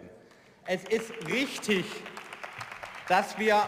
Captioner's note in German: Beifall